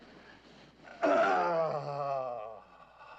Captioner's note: iç çekiyor